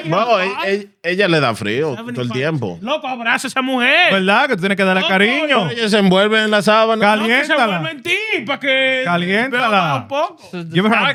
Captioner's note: speaking Spanish